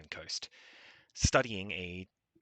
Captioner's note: breathes